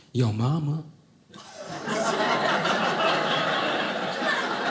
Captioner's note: audience laughing